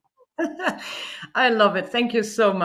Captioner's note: laughs